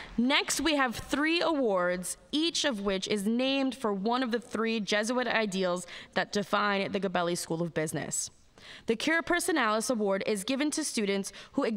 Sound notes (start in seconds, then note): none